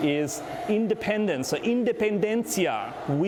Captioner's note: speaking in foreign language